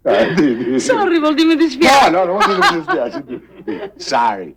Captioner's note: speaking foreign language